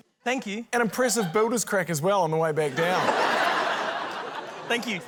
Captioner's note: laughter